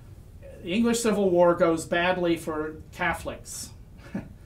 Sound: laughs

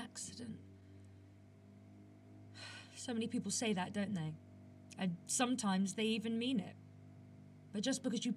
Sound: sighs

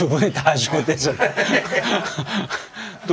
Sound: giggling

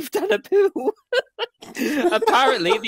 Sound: laughter

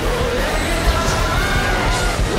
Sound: minion noises

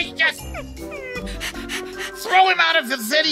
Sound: whining and panting

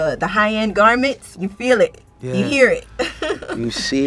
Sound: laughs

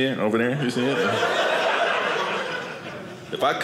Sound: audience laughing

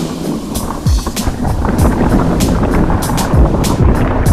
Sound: trap music plays; bike clatters

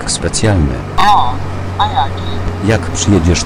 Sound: on the phone

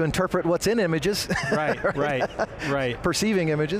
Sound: laughs

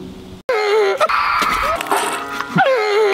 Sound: laughing

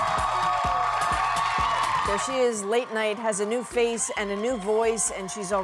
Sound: applause; cheers and Applause

